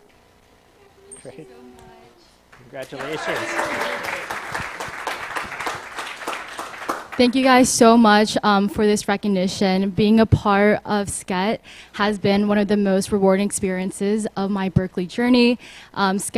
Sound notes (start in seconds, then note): 2.5 applause